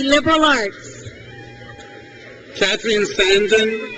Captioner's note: crowd cheers